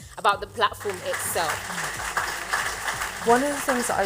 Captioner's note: applause